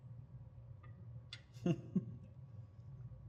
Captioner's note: laughs